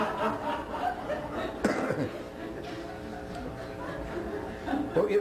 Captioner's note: laughter